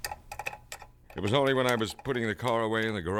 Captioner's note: keys clacking